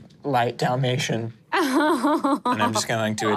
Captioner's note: laughs